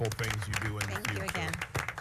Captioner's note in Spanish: aplausos